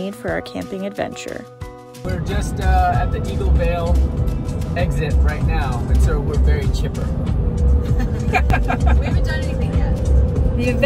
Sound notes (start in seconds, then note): 7.9 all giggling